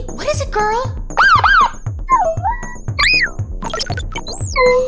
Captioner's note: sweepy beeping